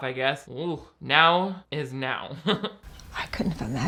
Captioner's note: chuckles